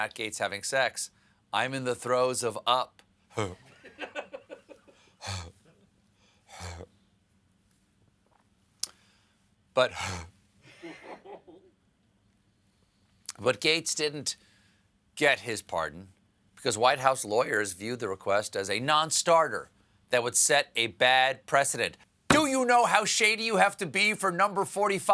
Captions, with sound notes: THINKING ABOUT MATT GAETZ HAVING SEX, I'M IN THE THROES OF UP ( LAUGHTER ) ( GAGGING ) BUT-- ( GAGGING ) BUT GAETZ DIDN'T GET HIS PARDON, BECAUSE WHITE HOUSE LAWYERS VIEWED THE REQUEST AS A NONSTARTER THAT WOULD SET A BAD PRECEDENT.